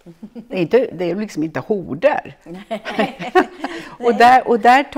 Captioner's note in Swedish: skratt